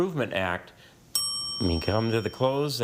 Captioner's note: bell dings